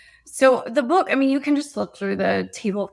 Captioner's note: none